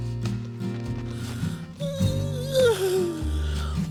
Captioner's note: yawning